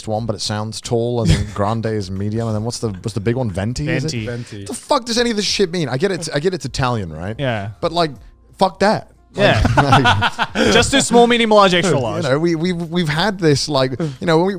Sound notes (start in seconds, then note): 9.4 laughing